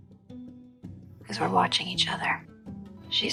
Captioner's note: voiceover